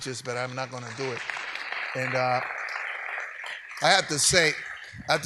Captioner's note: audience applauds